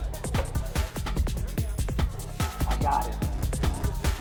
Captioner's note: hand knocking